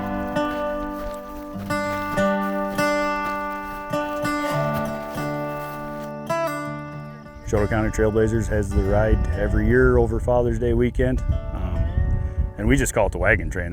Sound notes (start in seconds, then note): 0.3 gentle country music continues; 4.0 grass rustling